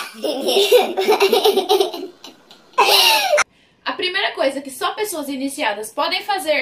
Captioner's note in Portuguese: risos